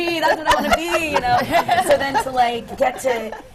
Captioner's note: laughter